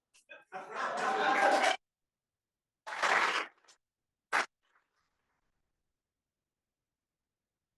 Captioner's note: laugh; applause